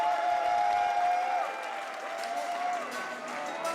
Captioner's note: crowd applause and cheers